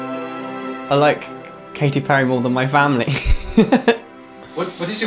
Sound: laughs

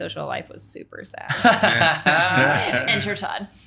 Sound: laughing

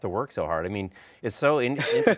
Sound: laughs

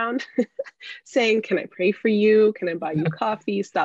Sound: laughs

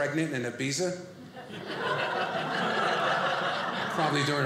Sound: audience laughing

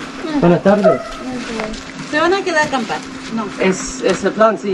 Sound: people speaking Spanish

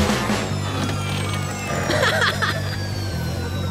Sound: laughs

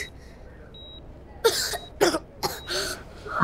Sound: coughs

